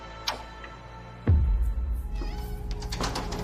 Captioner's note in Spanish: Ruido al abrir la puerta